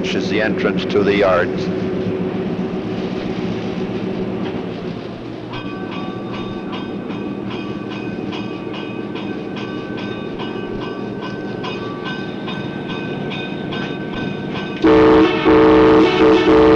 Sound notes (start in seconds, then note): 1.9 sound of the train moving; 5.8 bell dinging and train horn